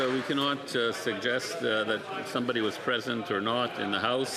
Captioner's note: some Applause